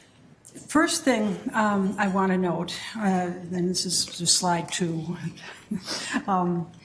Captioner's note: chuckles